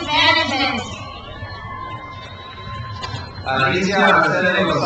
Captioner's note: crowd cheers